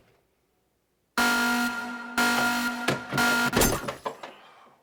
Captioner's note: alarm ringing